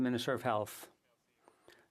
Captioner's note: speaking French